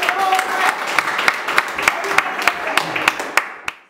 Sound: applause

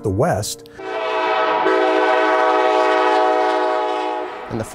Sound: train horns

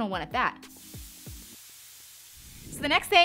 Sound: hissing

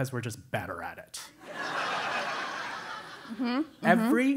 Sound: laugh

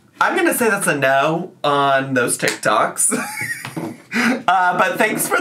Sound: laughs

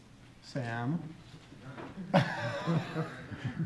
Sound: laughing

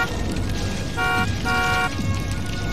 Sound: car honking repeatedly

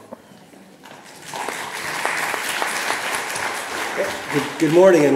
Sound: audience applauds

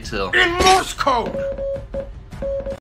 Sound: morse code words

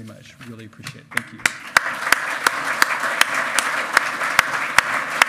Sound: loud clapping

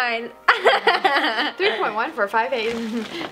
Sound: laughing

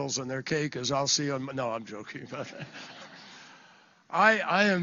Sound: laughter

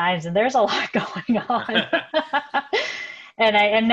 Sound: laughter

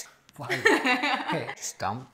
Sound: laughing

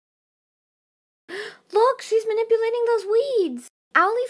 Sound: gasp

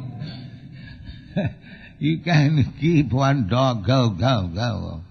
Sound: laughs

